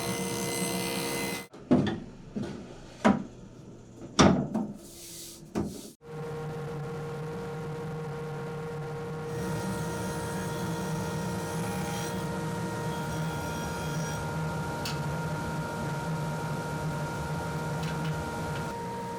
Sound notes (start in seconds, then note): 2.2 shelf clattering; 6.7 machine whirring; 9.3 saw buzzing